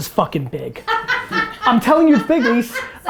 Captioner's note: laughs